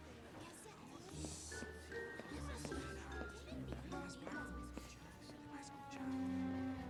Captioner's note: whispers